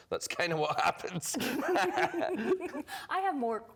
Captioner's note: laughter